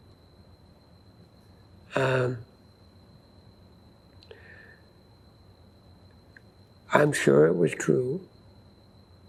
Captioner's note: pauses 6 seconds